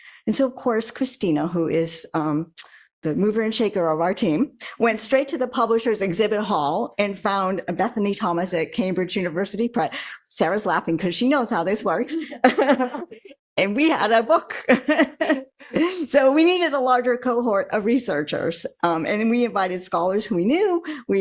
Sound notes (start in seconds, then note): 15.4 laughs